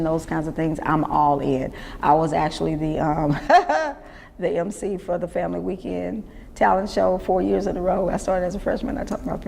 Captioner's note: laughs